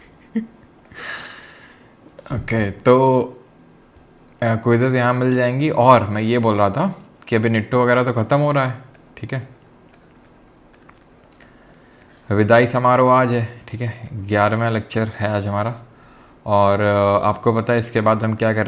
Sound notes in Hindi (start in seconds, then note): 0.9 अचानक ज़ोर से सांस लेने की आवाज़